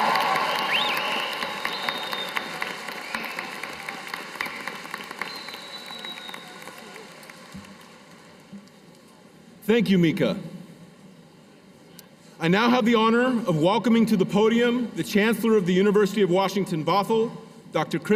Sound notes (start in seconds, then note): 4.0 cheers and applause